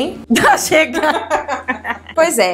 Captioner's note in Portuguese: risos